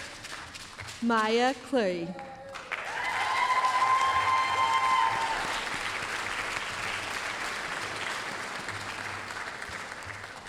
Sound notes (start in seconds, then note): 2.2 applause, cheering